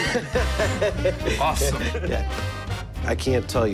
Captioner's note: laughter